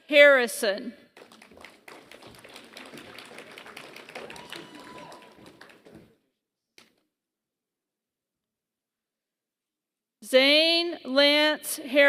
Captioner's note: applause